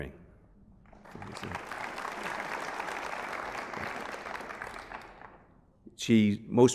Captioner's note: applause